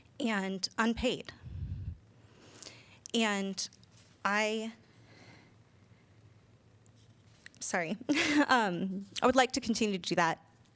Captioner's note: laughter